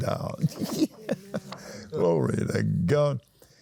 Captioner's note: laughs